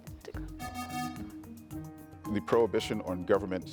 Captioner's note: buzzer buzzing